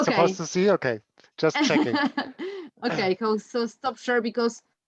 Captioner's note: laughs